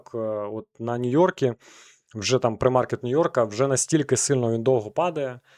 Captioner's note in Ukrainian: сопіння